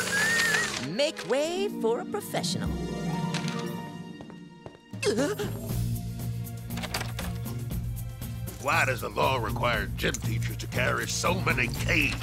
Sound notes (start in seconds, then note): 3.6 footsteps approaching, gasping; 6.7 doorknob rattling